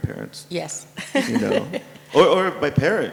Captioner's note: laugh